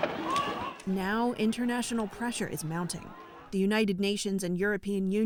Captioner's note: voice-over